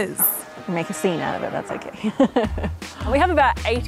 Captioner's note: chuckles